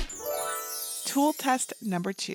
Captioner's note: glittery whoosh